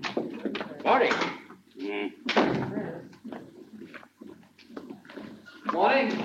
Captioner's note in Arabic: بلاين يتذمر